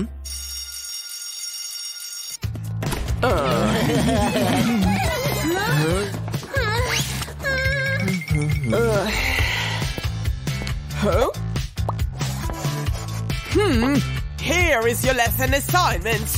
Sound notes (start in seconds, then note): 3.3 making happy sounds